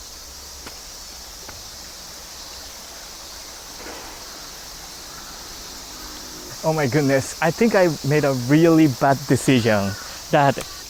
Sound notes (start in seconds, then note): 1.8 river burbles